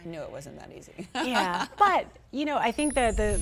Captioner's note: laughter